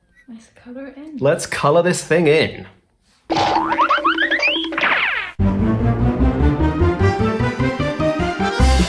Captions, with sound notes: - Let's colour it in. - Let's colour this thing in. (spring boinging) (exciting music)